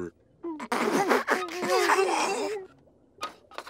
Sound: laughing

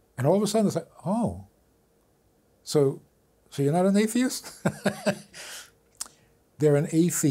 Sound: laughs

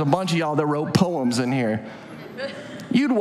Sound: audience laughs

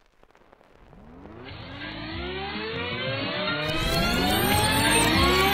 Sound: audio rewind screeching

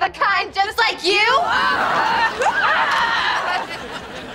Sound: groaning

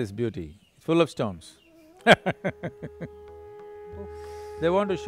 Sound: laughs

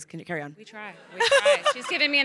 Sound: crowd laughing

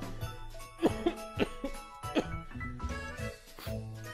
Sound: laugh; cough

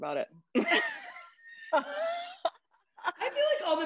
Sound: laughter

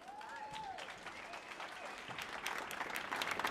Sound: applause

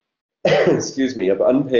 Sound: coughing

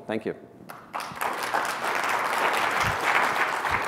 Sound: applause

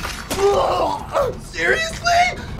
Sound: groans in pain

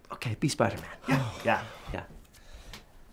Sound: sighs

